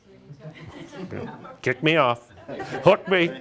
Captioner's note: group laughs